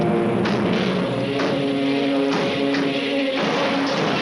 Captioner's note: van doors slamming